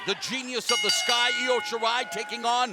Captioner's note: bell dinging